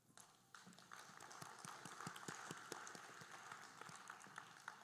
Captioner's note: audience applauding